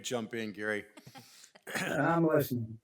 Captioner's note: members chuckling